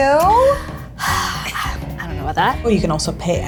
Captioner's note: sighing